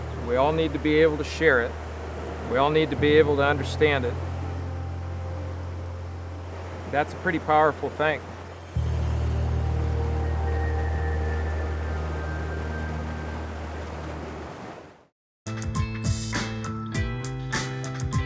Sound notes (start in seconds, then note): 8.4 tranquil music; 9.2 water rushing; 15.5 up beat music